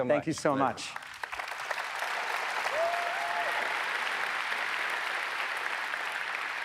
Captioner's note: audience applauds